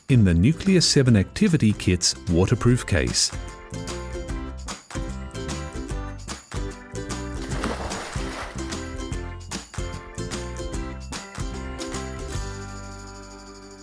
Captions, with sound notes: in the Nucleus® 7 activity kit's, waterproof case. (water splashing) (soft music)